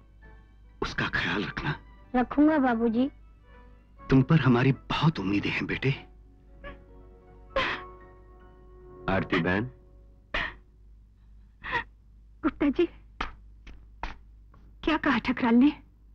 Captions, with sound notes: - Take care of her. - I will, father. I've pinned all my hopes on you, son. (Sobbing) Ms Aarti! Mr. Gupta, what did Thakral say?